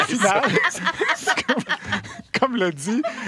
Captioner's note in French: rires